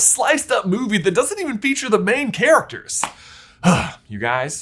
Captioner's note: sighs